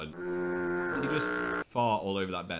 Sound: boat horn sounds

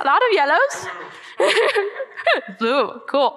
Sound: laughing

